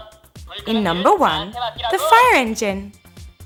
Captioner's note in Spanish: Suena una voz en Coreano